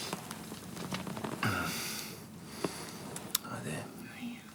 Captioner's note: John groans